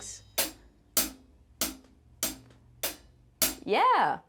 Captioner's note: drumstick tapping